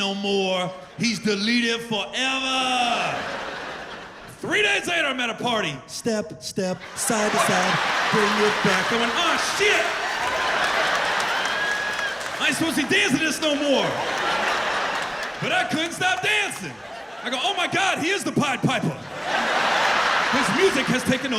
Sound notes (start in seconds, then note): 8.4 laughter; 11.4 laughter